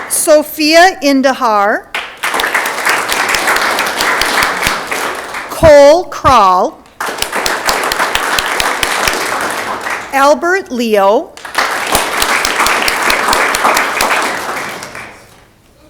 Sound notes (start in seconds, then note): 1.9 audience clapping; 11.3 audience clapping